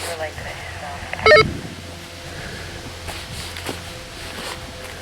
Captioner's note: walkie talkie bleeps; leaves crunching